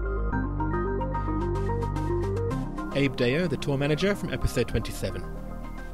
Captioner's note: voiceover